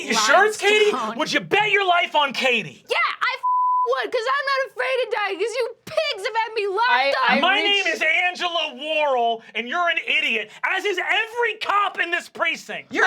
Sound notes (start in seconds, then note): 3.4 beep